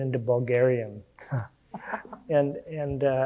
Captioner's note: laughing